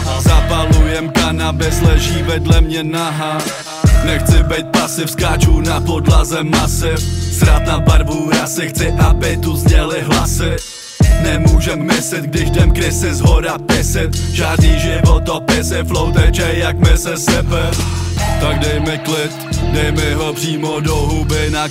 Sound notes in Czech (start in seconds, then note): 17.7 aah